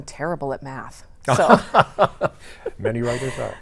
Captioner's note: laughing